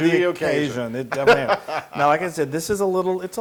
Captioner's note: laugh